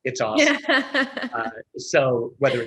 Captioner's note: laughs